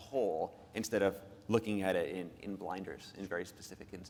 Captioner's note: none